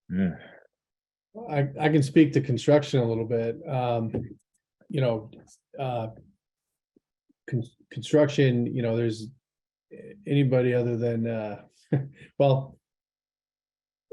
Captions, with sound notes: Mh I can speak to construction a little bit, you know, construction you know there's... anybody other than (laughs) well...